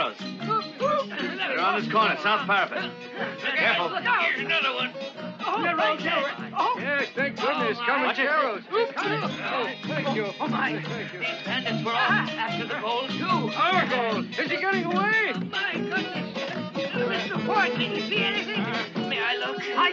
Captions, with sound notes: Around this corner sounds perfect. (men talking confusedly)